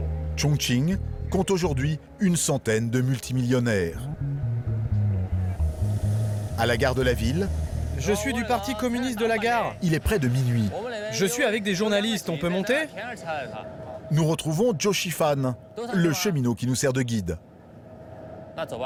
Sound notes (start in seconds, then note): 7.8 speaking foreign language